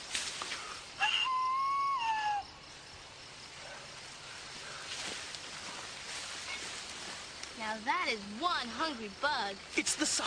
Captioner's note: whistles